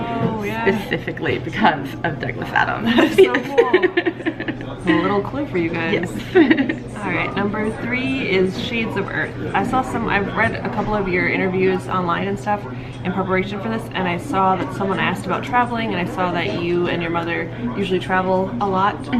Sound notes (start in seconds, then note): 2.8 laughing